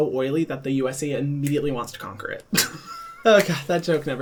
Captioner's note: laughs